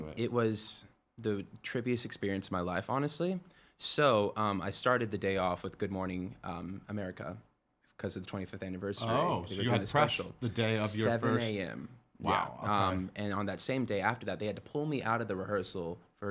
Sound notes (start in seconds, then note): none